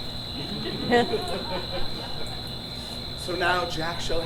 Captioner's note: audience laughs